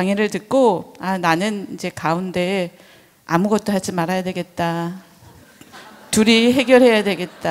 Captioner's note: audience laughs